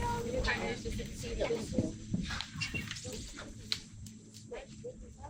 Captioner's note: crowd chattering indistinctly